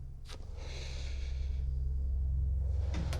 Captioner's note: sigh; door open close